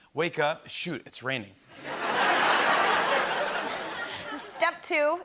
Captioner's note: laughter